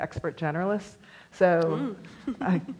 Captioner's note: laughs